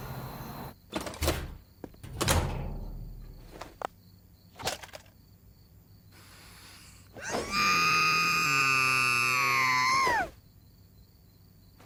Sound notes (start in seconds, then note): 6.1 inhales deeply; 7.1 muffled shrieking